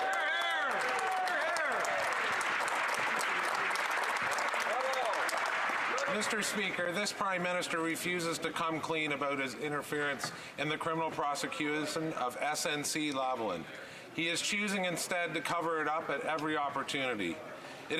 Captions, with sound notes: MEMBER FOR YORK--SIMCO. [ Some Applause ] >> MR. SPEAKER, THIS PRIME MINISTER REFUSES TO COME CLEAN ABOUT HIS INTERFERENCE IN THE CRIMINAL PROSECUTION OF SNC-LAVALIN.